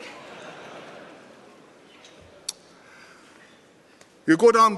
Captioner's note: laughter